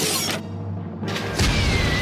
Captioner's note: whirring